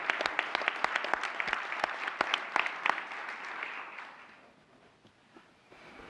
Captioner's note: applause